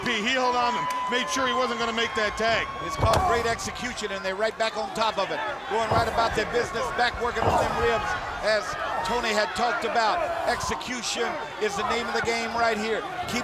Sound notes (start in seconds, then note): 5.6 blows thudding; 5.8 body thudding